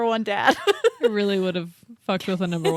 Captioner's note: laughs